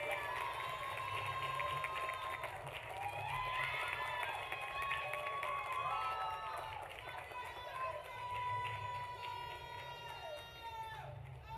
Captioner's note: applause; cheering